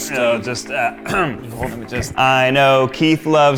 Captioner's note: clears throat